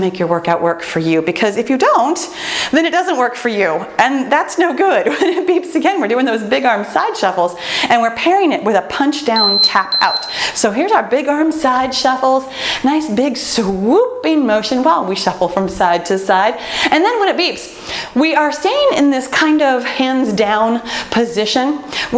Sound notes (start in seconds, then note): 9.3 timer beeps